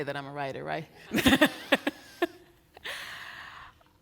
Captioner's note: laughing